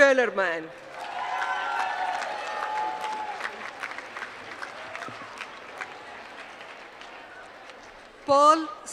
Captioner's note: applause